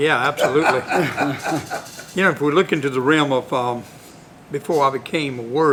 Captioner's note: laughter